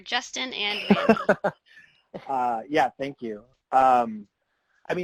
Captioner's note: laughs